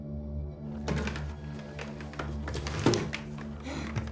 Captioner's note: door clattering